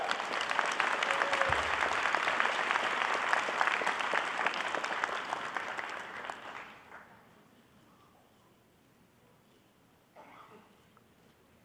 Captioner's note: applause